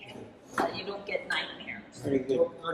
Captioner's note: chatter